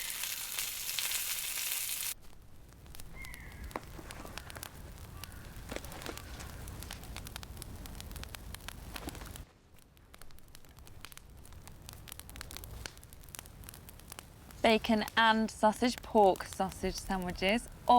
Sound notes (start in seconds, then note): 0.3 birds chirping; 6.5 fire crackling